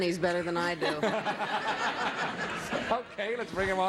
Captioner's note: audience laughs